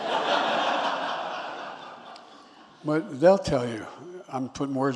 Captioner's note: laughter